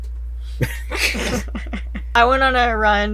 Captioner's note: laughs